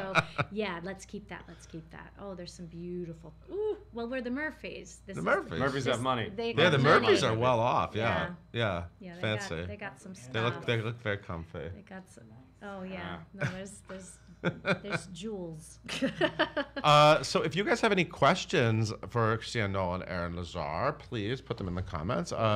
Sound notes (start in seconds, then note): 16.1 laughs